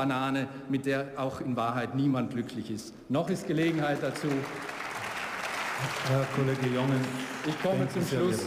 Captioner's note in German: Beifall